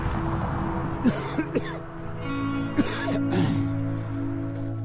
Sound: coughing

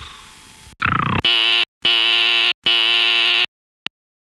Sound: alarm buzzes

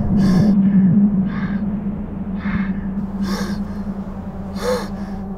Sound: navin breathing

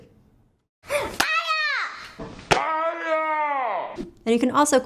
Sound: child shouting

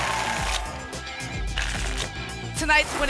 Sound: tickets shuffling

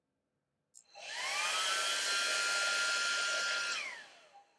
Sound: hairdryer turning on & off

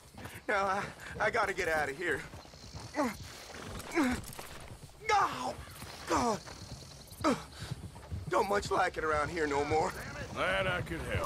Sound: screams in pain

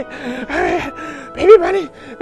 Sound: wheezing excitedly

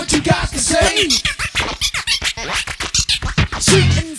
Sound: record scratching

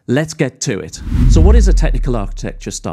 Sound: screen whooshes

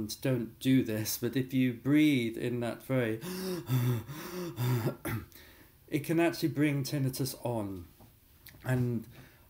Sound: hyperventilating

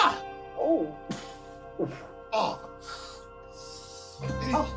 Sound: groaning in pain

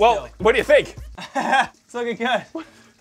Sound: laughs nervously

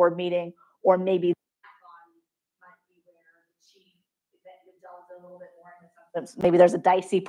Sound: microphone cuts out

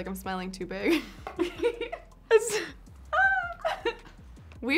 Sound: laughs

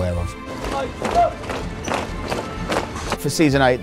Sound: stomping feet

